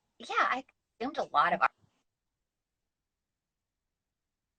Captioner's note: silence